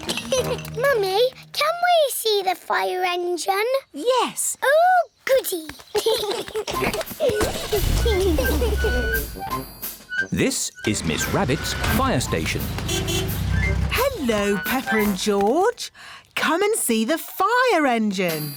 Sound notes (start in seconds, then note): 0.0 all laugh; 0.0 laughs; 0.0 giggles; 5.9 both giggling; 12.7 horn honks